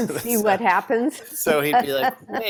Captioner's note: laughs